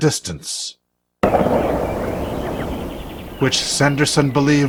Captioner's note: weapon fires in the distance